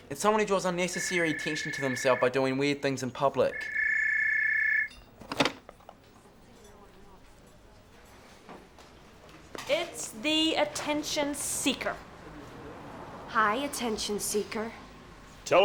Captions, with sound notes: - It's someone who draws unnecessary to themselves by doing weird things in public. (phone rings) - It's the attention seeker. - Hi, attention seeker.